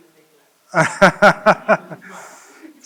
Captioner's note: laughs